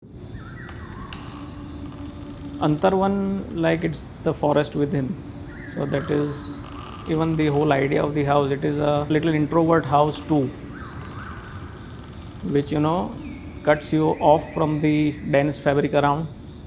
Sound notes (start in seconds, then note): 0.0 birds chirping; 0.0 wind gushing